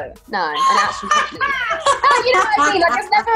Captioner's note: laughs